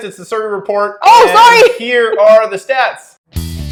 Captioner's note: laughing